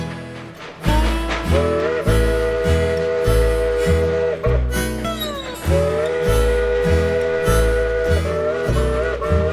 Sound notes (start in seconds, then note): 2.0 train chugging; 6.5 train whistling